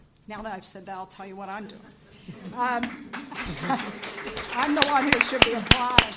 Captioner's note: applause